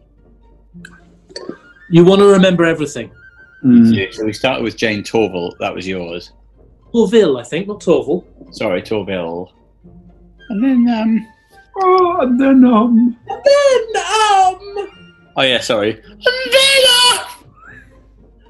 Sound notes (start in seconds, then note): 10.0 voice cracking